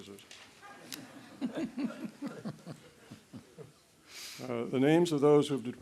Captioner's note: laughter